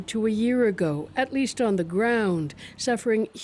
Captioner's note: bombing